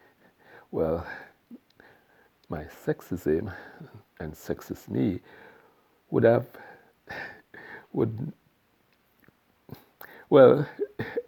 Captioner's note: haha